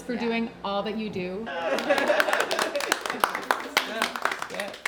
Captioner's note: all applauding